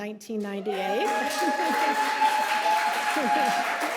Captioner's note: audience applauding; audience cheering; chuckles